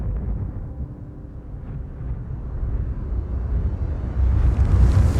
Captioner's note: wind rushing